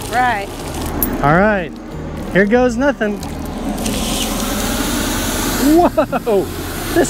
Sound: hose gushing water

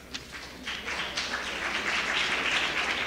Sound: applause

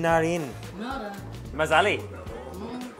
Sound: foreign language

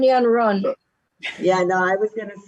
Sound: chuckles

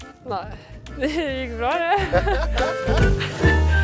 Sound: giggles

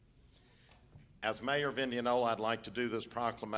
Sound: none

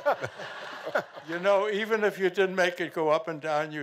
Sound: laughing

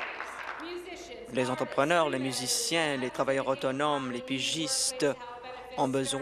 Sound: applause

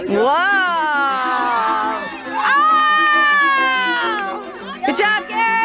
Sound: cheering

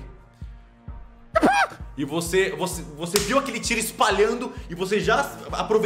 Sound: screams

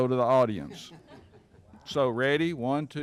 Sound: laughing

